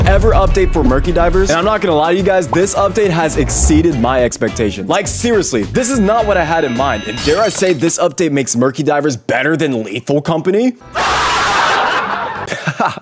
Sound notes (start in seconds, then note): 11.0 laughter